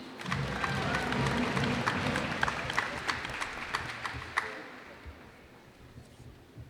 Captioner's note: cheers and applause